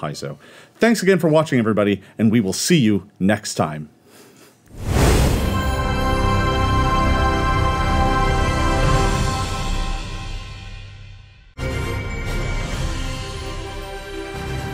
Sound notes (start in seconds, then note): 4.7 dramatic whooshing; 11.7 adventurous music